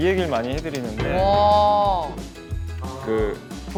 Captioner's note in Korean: 감탄